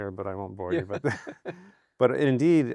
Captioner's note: both laughing